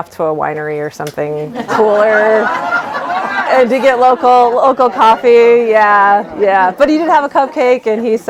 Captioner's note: laughter